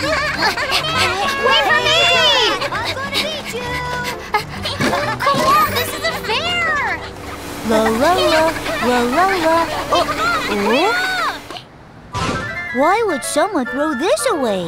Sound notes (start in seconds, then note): 0.1 children laughing; 7.6 Robbie humming